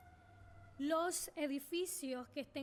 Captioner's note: speaking spanish